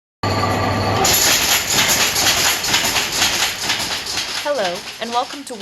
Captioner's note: rackety noise of industrial loom running